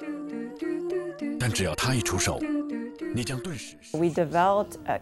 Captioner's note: commercial in Mandarin Chinese